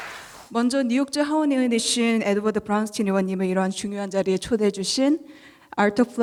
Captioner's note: speaking in foreign language